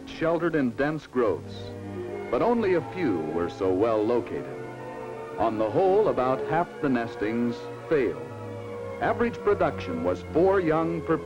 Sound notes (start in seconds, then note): none